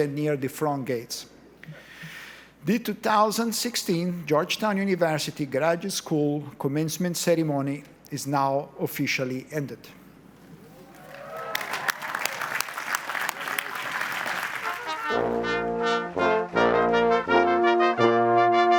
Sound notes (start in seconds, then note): 10.8 audience applauds; 14.6 cheerful orchestral music